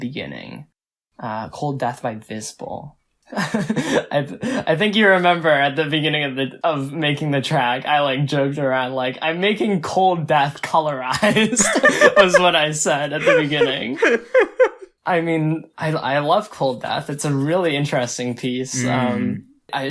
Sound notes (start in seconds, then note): 3.2 laughs; 11.2 both laugh; 14.3 laughs